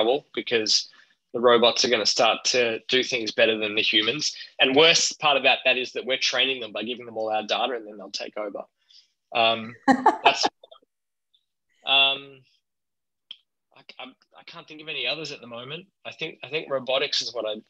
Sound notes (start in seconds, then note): 9.8 laughs